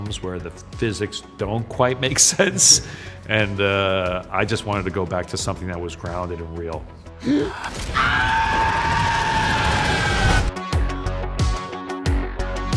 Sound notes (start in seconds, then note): 7.2 Hank gasping; 7.3 man screaming; 9.8 dramatic music